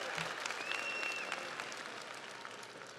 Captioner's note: audience cheers; audience applauds